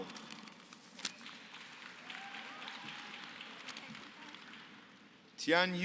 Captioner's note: applause